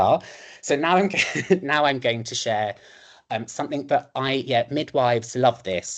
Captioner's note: chuckles